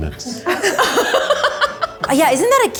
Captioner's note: laughs